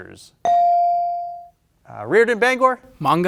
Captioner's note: bell ringing